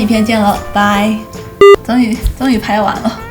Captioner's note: beep